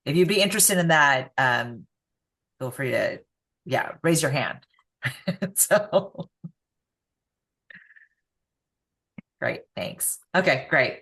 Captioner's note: laughs